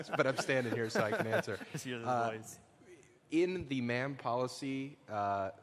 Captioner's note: laughter